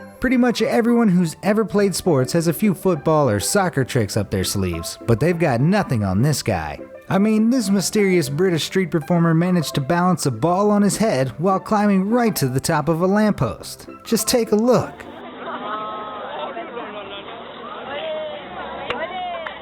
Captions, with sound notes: Pretty much everyone who's ever played sports has a few football or soccer tricks up their sleeves, but they've got nothing on this guy. I mean, this mysterious British street performer managed to balance a ball on his head while climbing right to the top of a lamp post. Just take a look. (crowd talking)